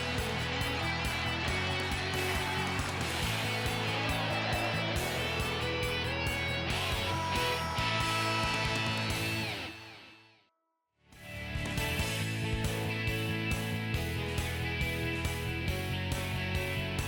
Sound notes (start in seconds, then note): 0.4 upbeat music continues; 7.1 buzzer blaring; 11.4 upbeat music